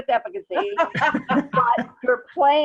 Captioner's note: laugh